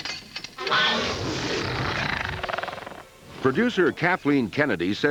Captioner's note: snarling